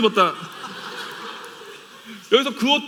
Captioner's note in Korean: 웃음